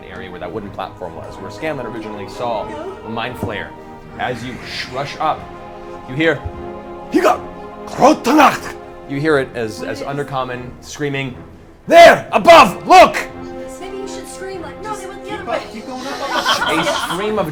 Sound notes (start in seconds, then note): 6.7 speaks Undercommon